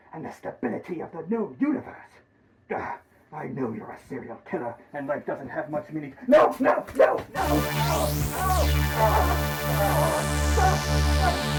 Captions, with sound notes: and the stability of the known universe! I know you are a serial killer and life doesn't have much meaning. No, no, no, no! [eerie sci-fi whirring]